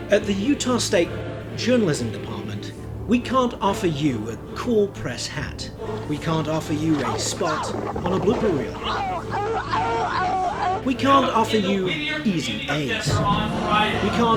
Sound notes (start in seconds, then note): 9.4 yelping